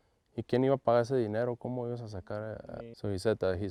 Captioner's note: agent speaking Spanish